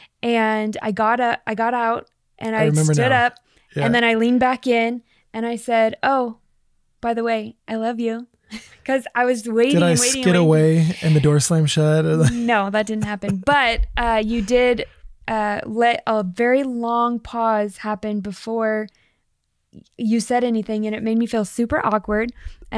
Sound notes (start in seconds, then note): 9.7 laughs